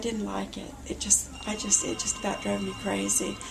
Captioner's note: phone ringing